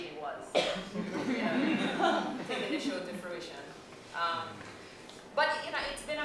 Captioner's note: laughter